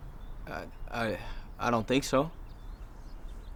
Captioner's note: stammering